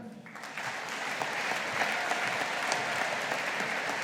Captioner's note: audience applauding